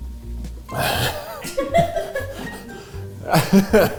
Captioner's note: cast laughing